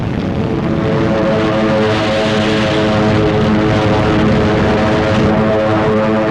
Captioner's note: planes flying overhead